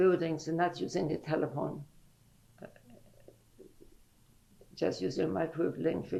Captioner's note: pauses for 3 seconds